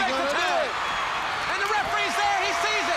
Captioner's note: crowd cheering